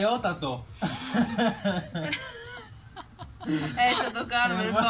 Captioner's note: laughter